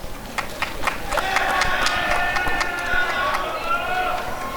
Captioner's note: applause and cheering